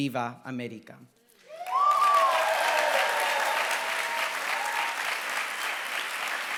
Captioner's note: applause